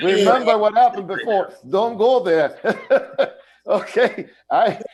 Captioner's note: laughter